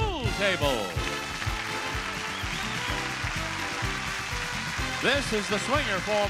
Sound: audience applauding

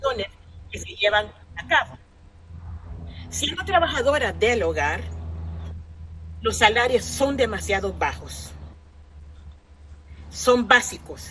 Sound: speaking spanish

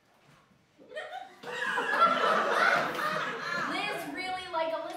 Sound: laughter

